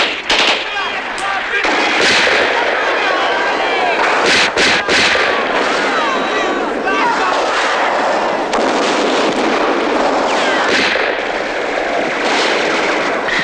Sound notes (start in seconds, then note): 9.1 shooting